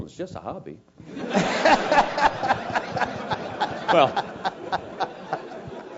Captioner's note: laugh